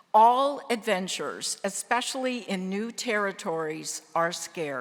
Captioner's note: none